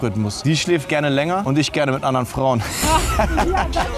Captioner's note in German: lacht